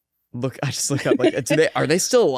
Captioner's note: both laugh